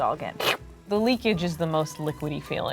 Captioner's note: suction sound